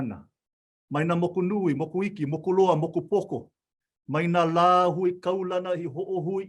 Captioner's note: continues speaking in Hawaiian